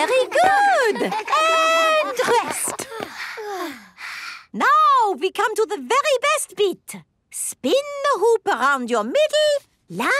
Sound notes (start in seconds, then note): 3.1 panting